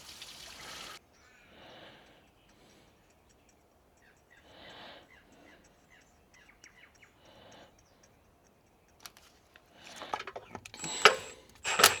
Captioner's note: metal clanking